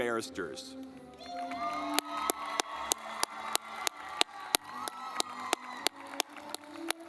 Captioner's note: audience clapping